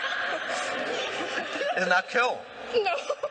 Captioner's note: laughing